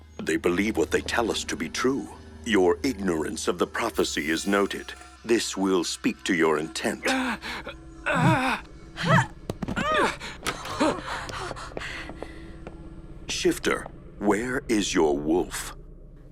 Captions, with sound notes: They believe what they tell us to be true. Your ignorance of the Prophecy is noted. This will speak to your intent. -[Jonathon gasps] -[Lienda gasps] [both groan] Shifter, where is your Wolf?